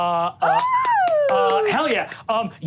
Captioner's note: Sofia applauds